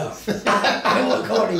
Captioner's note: both men laugh